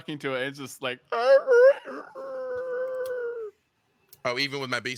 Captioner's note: beastly shreiking